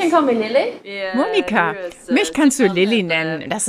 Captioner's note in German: englisch